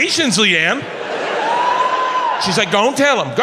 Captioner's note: audience laughs